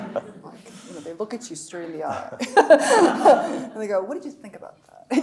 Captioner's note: audience laughing; laughing